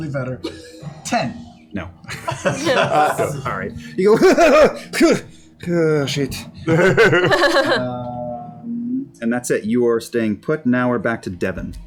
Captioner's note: grabbing noises